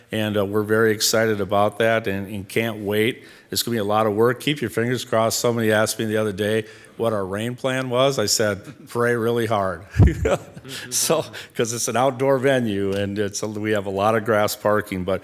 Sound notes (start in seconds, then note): 9.9 laughing